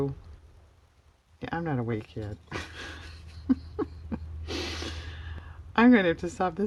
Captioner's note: laughs